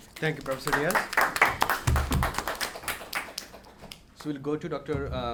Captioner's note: audience applauds